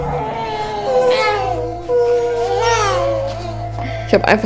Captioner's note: baby cries